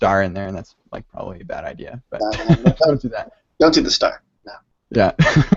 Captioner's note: laughs